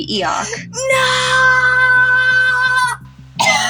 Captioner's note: inhale; cough